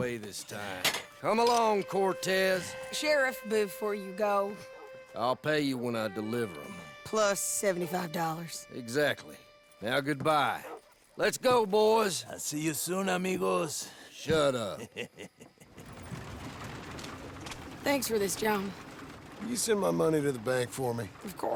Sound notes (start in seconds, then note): 14.5 as Ramón laughs